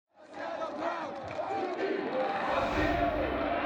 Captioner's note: people talking